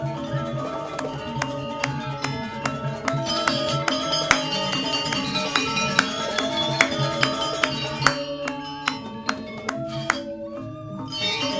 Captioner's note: clapping